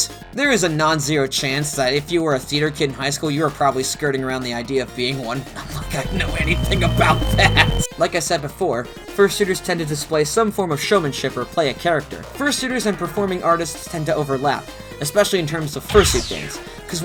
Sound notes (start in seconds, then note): 7.3 nervously laughing